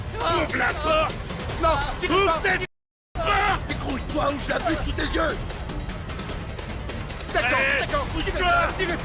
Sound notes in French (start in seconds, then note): 0.0 musique pleine de suspense; 4.3 les gens crient